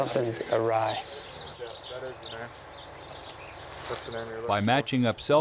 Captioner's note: birds chirping; voiceover